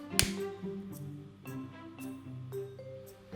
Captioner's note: clicks